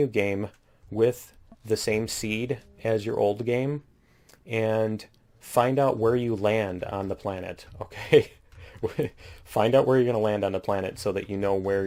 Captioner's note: laughs